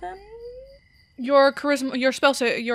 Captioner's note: stumbling over words